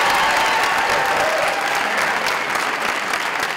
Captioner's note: applause